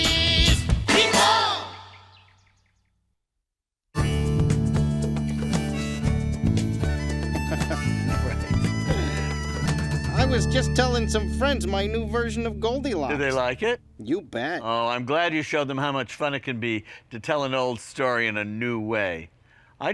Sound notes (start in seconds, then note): 4.3 happy upbeat music; 7.0 laughing